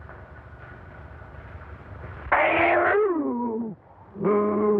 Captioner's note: snarling and growling